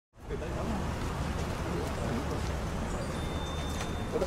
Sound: chatter

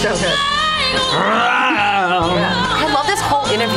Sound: growling sounds

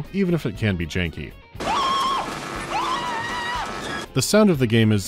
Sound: Marv scream

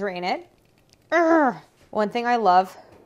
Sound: groaning

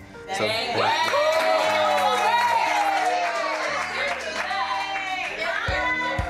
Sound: group cheering; upbeat music

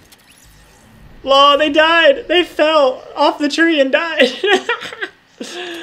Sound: laughs

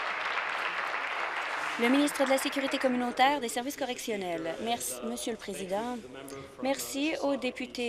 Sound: applause

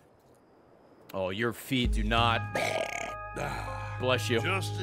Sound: burps

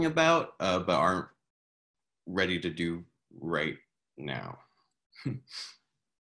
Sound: chuckles

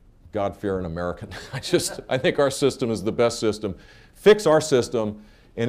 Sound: laughs

